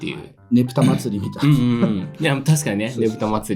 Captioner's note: laughs